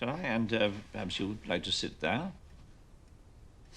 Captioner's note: none